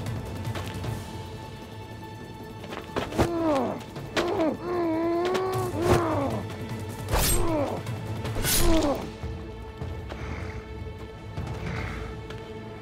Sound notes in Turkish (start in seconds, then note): 3.0 Dövüş sesleri; 10.1 Müzik - Gerilim